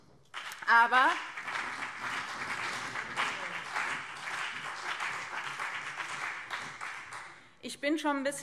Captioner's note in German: Beifall BÜNDNIS 90/DIE GRÜNEN und CDU